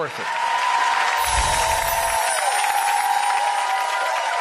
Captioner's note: applause